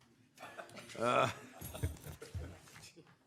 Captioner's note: laughter